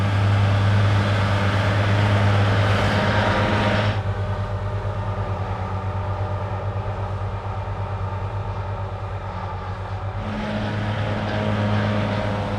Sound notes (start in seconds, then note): 0.8 loud engine